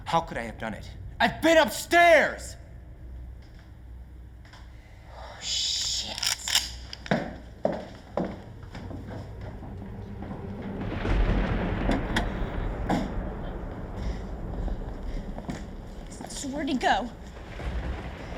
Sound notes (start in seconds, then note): 6.0 gun cocking; 11.1 thunder booming